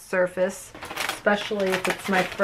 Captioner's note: bag crunching